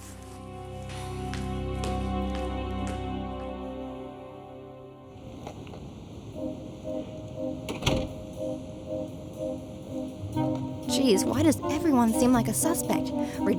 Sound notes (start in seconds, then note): 0.0 ominous music; 6.3 playful suspenseful music; 7.6 door bangs